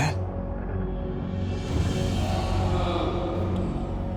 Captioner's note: ghostly Voice